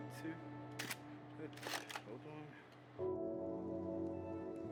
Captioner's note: camera clicks